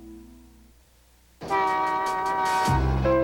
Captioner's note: honk